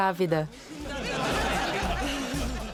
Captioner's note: laughter